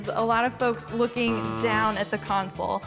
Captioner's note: buzzer buzzing